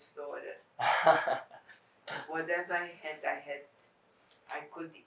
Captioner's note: laughing